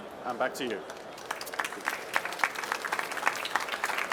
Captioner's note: applause